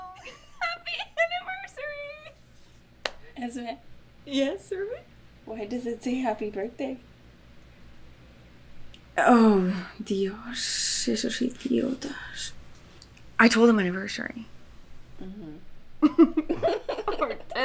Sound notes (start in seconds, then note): 3.0 claps; 12.5 speaking in foreign language; 16.0 both giggling